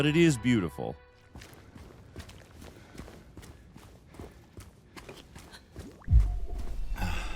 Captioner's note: character pants; footsteps thud; character exhales; gate opens